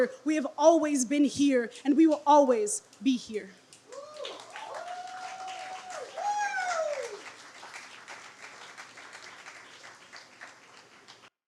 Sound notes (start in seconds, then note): 3.9 crowd cheers and applauds